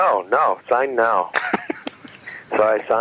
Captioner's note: laughing